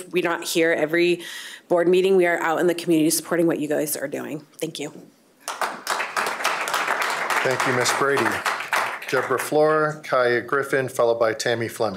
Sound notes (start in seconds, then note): 7.3 applause